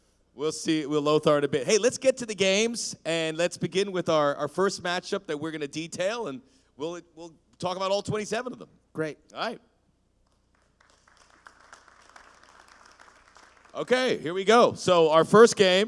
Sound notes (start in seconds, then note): 10.3 applause